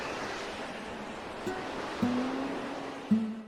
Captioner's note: high winds